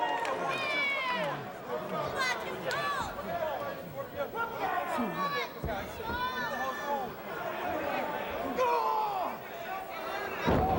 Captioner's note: crowd chatter